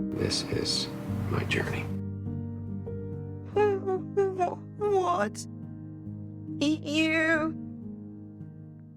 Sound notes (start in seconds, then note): 4.1 voiceover; 5.2 stuttering